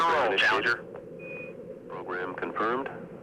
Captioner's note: voiceover